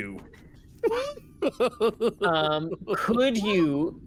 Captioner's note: laughing